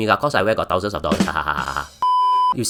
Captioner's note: very sad laugh